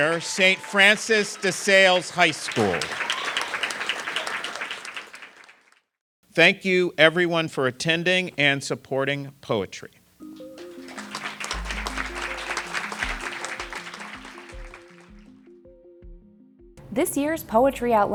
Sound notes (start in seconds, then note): 0.0 applause; 10.3 applause